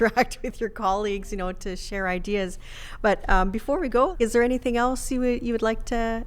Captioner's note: laughs